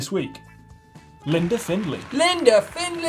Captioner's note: audience applauds